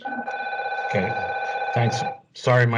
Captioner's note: phone rings